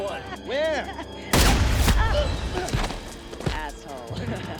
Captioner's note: gunshot fires; man grunts